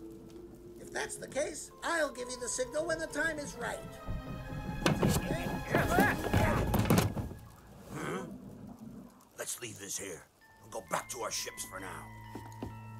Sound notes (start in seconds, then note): 5.7 distant thud